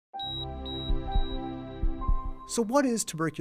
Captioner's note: beeping